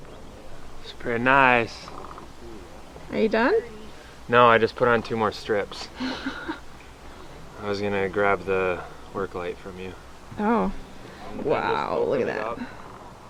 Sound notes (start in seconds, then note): 5.8 laughing